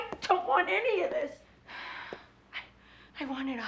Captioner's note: sighs